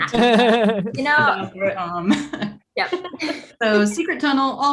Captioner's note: group laughing